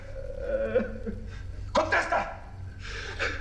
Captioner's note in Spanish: Sollozos